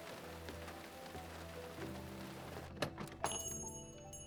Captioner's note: bell jingles